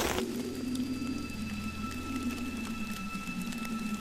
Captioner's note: footsteps crunching